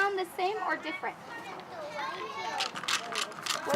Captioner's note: rattle and brush-like sounds